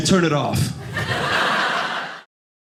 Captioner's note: audience laughing